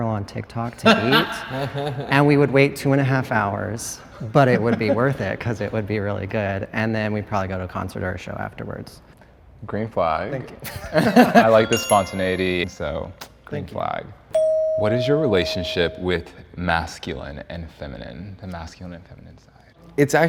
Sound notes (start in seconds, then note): 0.8 laughs; 11.3 laughs; 14.3 bell dings